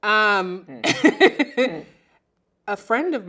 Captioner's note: laughs loudly